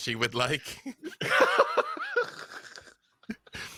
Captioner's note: laughs